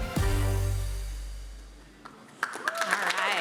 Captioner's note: applause